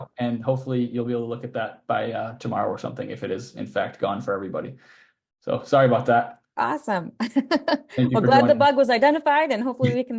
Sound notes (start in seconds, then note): 7.2 laughing